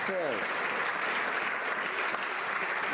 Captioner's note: some Applause